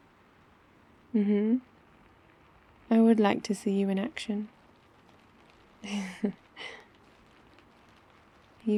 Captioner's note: laughs